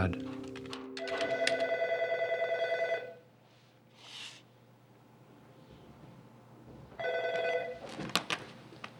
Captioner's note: telephone ringing